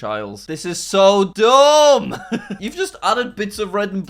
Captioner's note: laughing